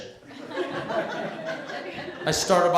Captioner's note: laughter